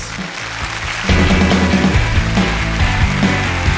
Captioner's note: applause